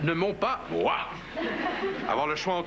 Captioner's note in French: Rires